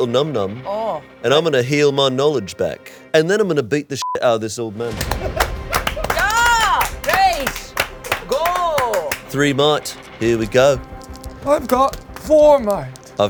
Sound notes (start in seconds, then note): 4.0 beep; 4.9 heroes clapping